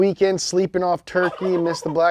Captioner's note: turkey gobbles